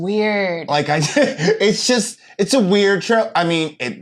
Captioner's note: laughs